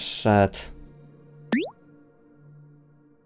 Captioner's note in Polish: boing